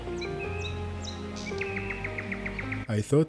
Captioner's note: birds chirping